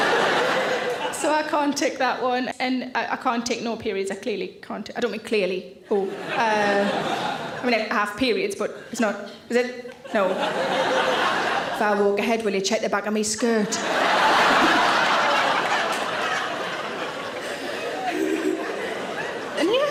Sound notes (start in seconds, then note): 0.0 audience laughs; 5.9 audience laughs; 9.9 audience laughs; 13.6 audience laughs; 17.4 Sarah chuckles